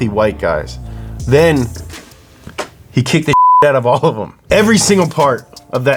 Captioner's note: beep